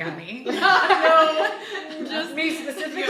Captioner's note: group laughing